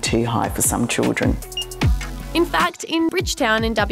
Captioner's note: scanner beeps